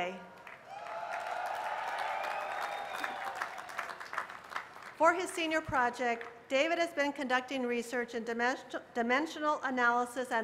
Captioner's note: cheers and applause